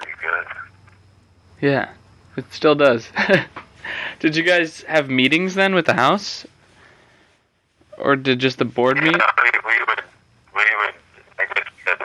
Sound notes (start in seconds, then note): 3.1 laughter